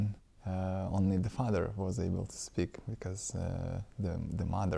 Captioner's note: по-литовски